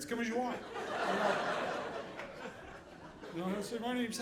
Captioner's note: audience laughing